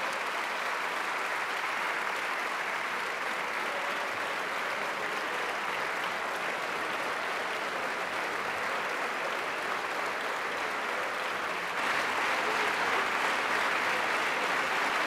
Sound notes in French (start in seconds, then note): 3.8 Applaudissements – ovation debout